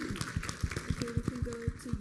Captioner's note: applause